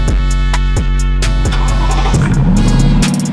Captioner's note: engine revs; engines chugs